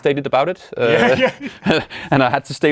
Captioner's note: laughs